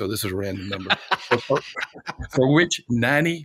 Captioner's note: laughing